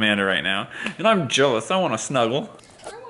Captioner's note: slap